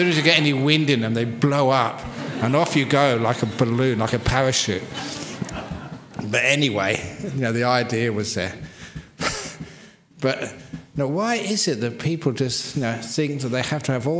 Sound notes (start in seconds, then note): 5.2 laughter; 9.3 laughs